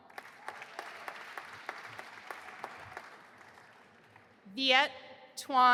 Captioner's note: audience applauding